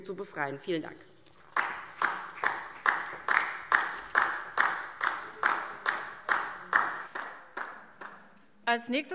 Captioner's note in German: Beifall DIE LINKE